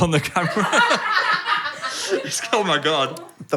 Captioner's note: group laughing